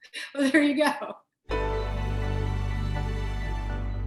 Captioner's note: laughs